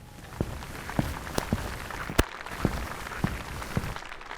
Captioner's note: audience applauding